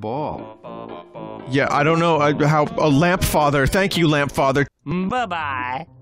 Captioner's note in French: bégaiement